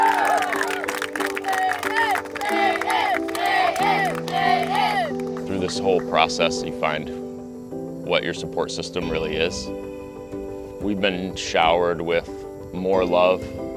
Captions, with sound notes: [chanting] Patyon, Payton, Payton Through this whole process you find what your support system really is. We've been showered with more love